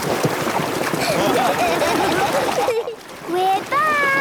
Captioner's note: laughing